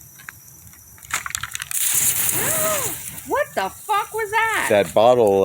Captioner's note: loud "hiss" from the fire